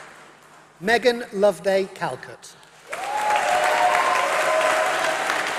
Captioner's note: applause